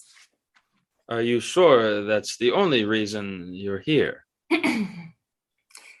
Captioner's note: flirtatiously